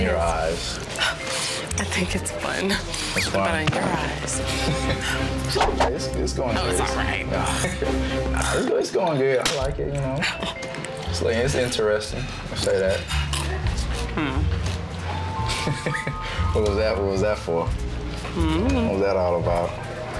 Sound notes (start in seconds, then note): 6.2 laughs; 15.5 laughs